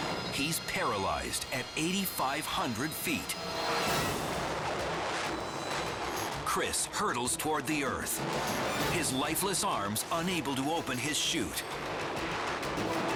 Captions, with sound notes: He's paralyzed at 8,500 feet. (air swooshing) Chris hurdles toward the earth. His lifeless arms unable to open his chute.